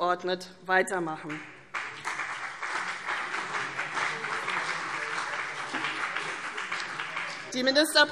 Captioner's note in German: Beifall CDU und BÜNDNIS 90/DIE GRÜNEN